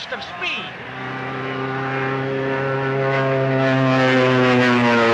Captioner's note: airplane buzzing